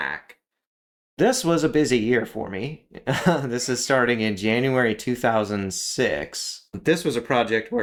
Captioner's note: laugh